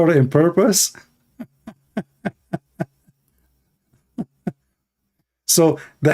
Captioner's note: Ketawa